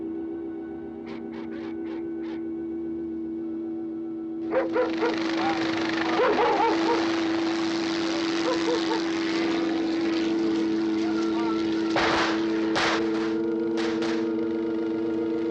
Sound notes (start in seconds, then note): 4.5 barking continues; 7.7 helicopter whirring; 11.5 gunfire